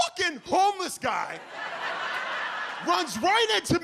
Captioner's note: audience laughs